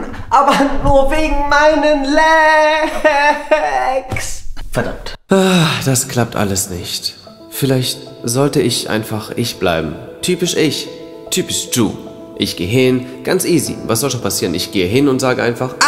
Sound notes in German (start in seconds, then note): 5.4 Seufz